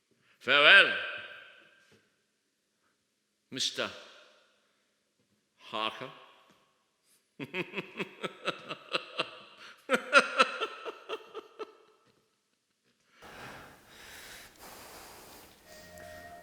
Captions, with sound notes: Farewell... Mr... Harker. [Dracula laughing.]